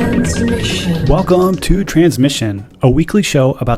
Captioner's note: voiceover